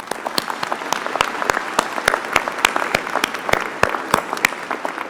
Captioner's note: applause